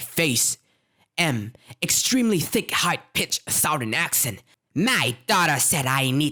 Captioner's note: with an extremely thick high pitched southern accent